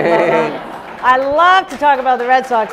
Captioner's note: laughing